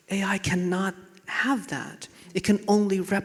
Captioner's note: none